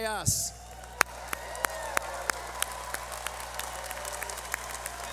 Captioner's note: cheering